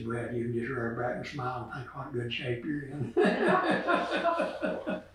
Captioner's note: laughs